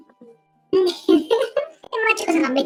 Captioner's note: laughs